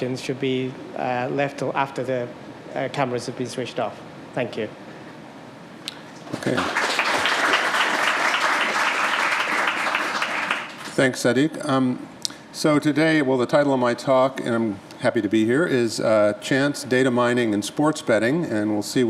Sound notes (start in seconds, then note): 4.7 applause